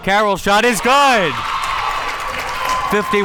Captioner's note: crowd members clapping